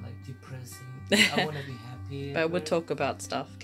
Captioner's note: laughs